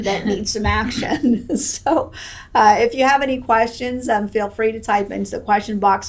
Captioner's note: laughs